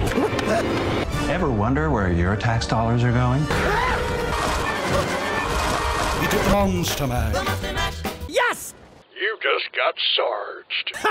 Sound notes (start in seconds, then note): 3.2 suspense music; 3.5 screams